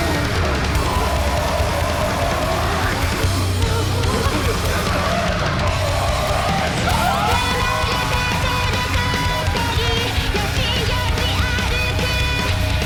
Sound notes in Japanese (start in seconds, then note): 0.2 ドラムをたたく音; 3.2 ざわめき; 5.2 歓声